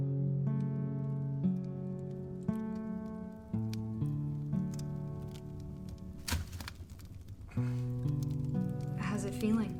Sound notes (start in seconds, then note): 0.4 acoustic music; 4.5 fire crackling